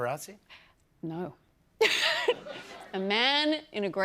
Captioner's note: laughs